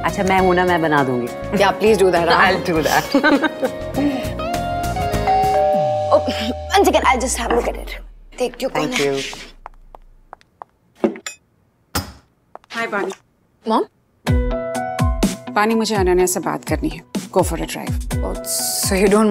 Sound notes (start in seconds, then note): 2.7 both laughing; 5.2 door bell ringing; 12.1 door opens